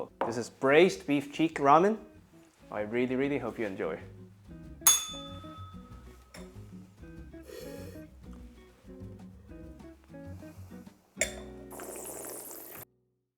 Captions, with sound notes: This is braised beef cheek ramen. I really, really hope you enjoy. [bell rings] [slurps]